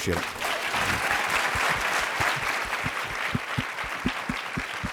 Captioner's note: applause